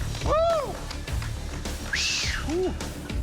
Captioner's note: whistles weakly